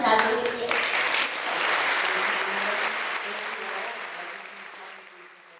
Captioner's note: audience applause